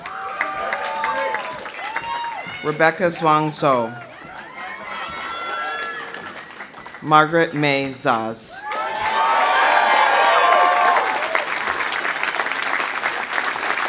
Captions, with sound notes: (audience cheering) (audience applauding) Rebecca Zhuang Zhou. (audience cheering) (audience applauding) Margaret Mei Zoz. (audience cheering) (audience applauding)